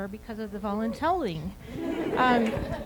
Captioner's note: laughter